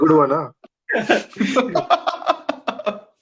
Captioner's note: laughing